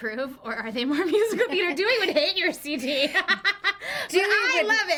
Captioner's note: both laugh